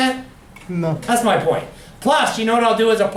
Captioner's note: voiceover